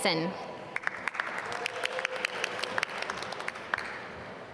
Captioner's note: applause